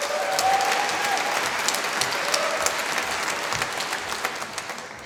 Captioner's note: applause